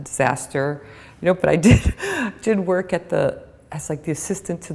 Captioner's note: chuckle